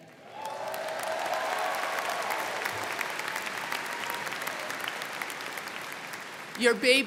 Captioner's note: crowd cheering; crowd clapping